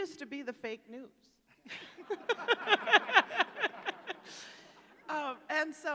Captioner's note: laughter